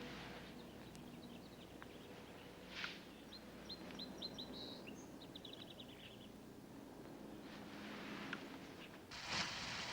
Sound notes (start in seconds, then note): 0.4 birds chirping